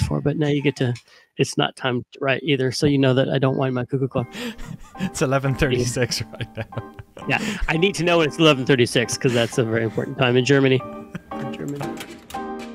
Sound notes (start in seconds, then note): 5.6 laughs